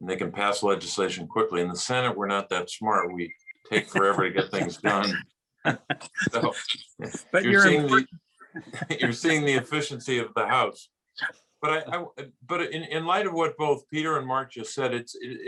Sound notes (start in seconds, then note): 5.4 laughing